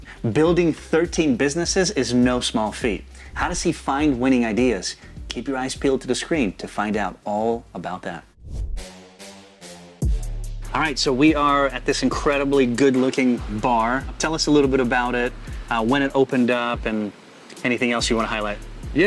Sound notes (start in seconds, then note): 8.4 air whooshing; 9.5 gripping music